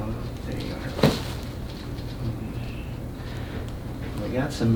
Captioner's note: back cracking